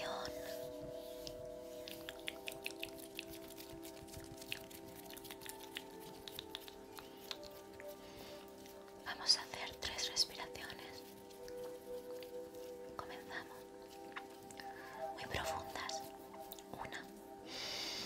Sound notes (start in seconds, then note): 2.0 mouth sounds